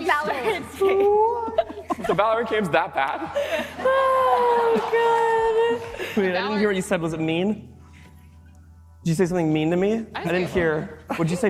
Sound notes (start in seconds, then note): 4.6 laughter